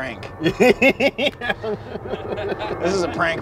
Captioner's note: laughing